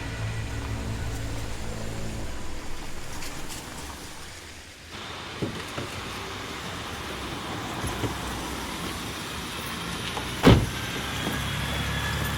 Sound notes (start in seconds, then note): 5.2 traffic noise in background